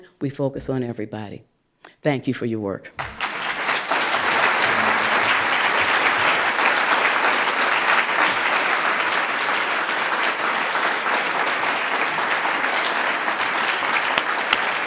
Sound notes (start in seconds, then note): 3.0 applause